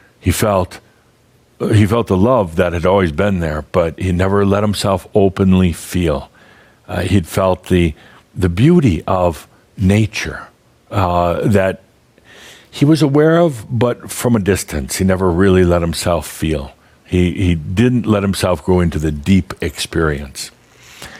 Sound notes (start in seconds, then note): none